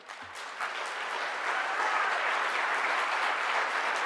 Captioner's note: audience applause